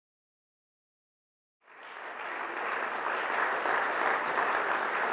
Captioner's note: audience applauds